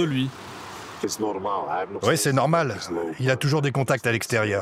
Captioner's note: Dutch spoken audio